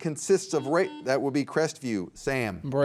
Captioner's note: buzzer beeps